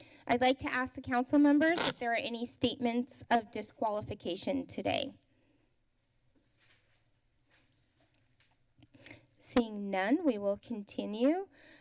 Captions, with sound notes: I'd like to ask the council members if there are any statements of disqualification today. [pause] Seeing none, we will continue.